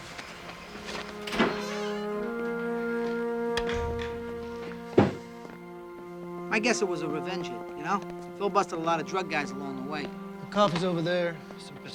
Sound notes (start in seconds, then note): 0.8 door creaking; 3.9 suspenseful music